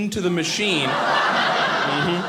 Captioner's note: audience laughing